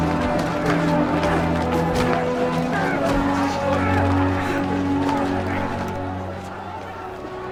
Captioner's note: roar of chatter